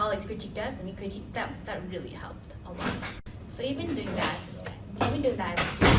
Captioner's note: door slamming